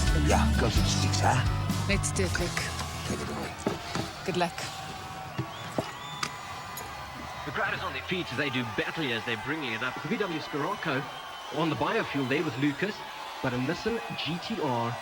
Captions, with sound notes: Yeah, go to six huh. - Let’s do it, Luke. Good luck. (crowd cheering) - The crowd is on their feet today.. The VW Scirocco, on the biofuel there with Lukas, but a Nissan GT-R